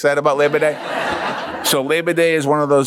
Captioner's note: laughs